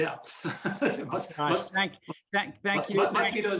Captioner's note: laughing